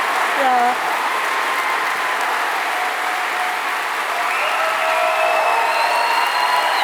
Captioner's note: applause